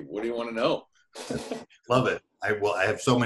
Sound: laughs

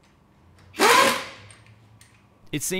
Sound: air-powered rattle gun

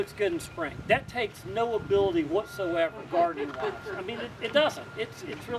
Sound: laughter from audience

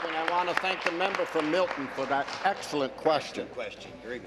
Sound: some Applause

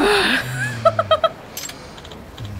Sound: chuckles

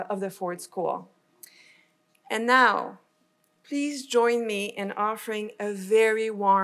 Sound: none

